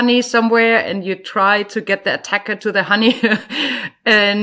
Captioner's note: chuckles